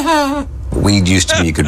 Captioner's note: laughing